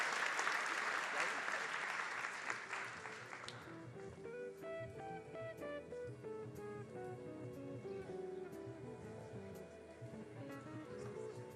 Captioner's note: applause